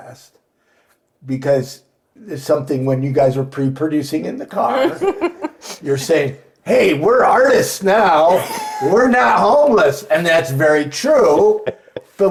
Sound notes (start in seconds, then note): 4.7 laughing; 8.2 laughing